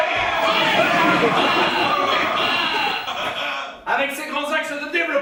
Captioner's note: cheers and applause